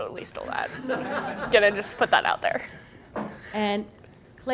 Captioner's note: audience chuckling